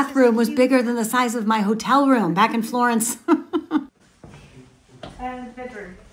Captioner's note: laughs